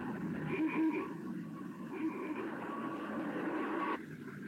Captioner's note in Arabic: صوت بوق السيارة